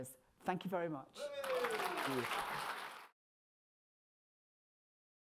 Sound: crowd cheering

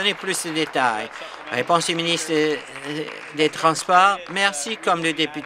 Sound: applause

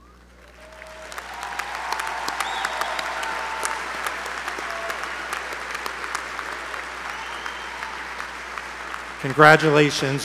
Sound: applause

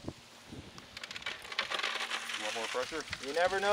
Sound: rocks clattering

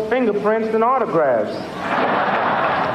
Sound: laughter

